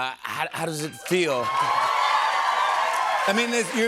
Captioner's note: cheers and applause